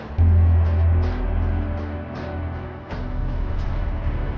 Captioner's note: stars whooshing